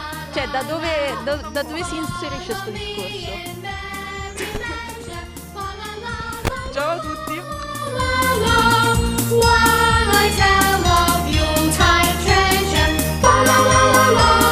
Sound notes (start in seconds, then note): 4.3 laughs